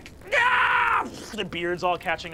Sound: pained screaming

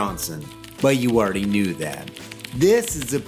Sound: sound of angry keyboards loom in the distance

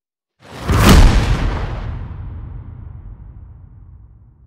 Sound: explosive sound effect

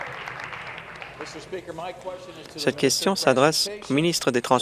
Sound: applause

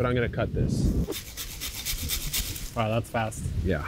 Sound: saw rasping

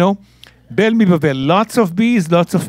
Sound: speaking in Hebrew

